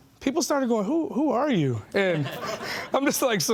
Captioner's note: laughing